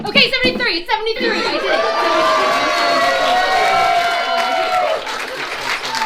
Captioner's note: audience cheers